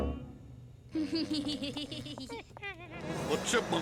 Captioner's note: laughing